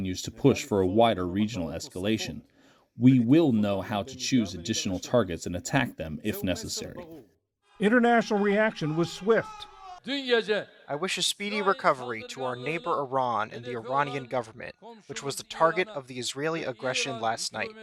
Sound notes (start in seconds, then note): 8.3 voice-over; 11.6 through translator